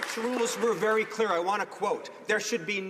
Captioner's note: some Applause